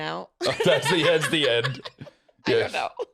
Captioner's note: laughing